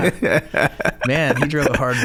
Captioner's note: laughing